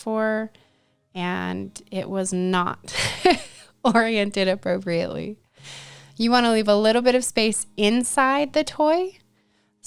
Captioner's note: chuckle